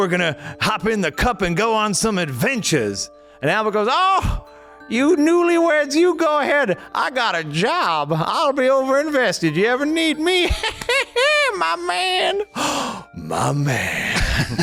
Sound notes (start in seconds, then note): 10.5 cackles